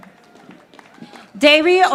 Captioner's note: audience applauding